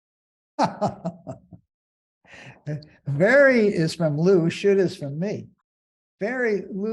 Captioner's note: laughing